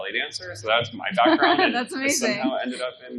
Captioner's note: laughs